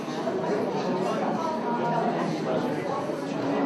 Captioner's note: chatter